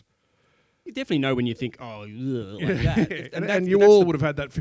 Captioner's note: bllehhh